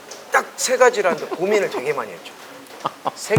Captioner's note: laugh